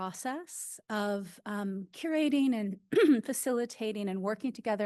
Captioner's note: clears throat